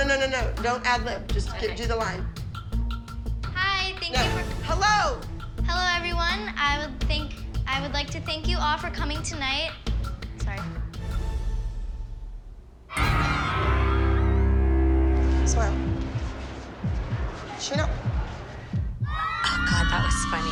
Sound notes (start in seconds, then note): 12.9 cheering; 19.0 cheering